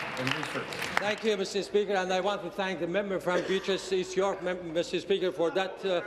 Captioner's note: applause